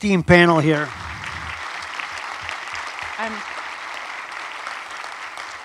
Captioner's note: audience applauds